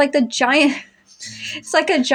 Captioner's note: disappointed Chuckles